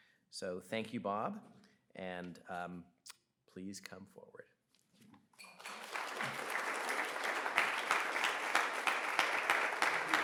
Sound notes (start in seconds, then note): 5.4 audience applauds